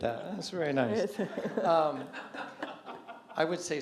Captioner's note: laughter